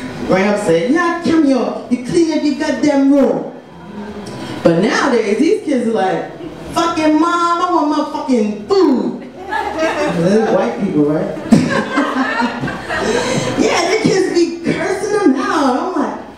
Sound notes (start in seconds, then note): 11.3 audience laughs; 11.4 laughs